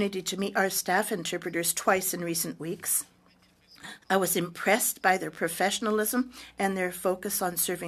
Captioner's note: speaking French